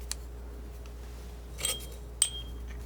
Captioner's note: scratching